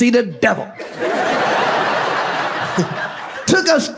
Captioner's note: audience laughs